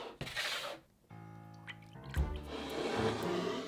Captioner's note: liquid pouring